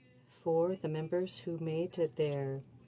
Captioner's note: speaking French